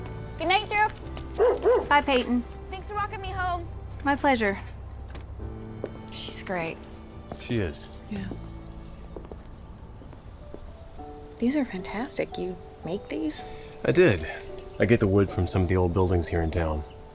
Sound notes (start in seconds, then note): none